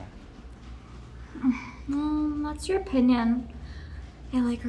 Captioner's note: sighs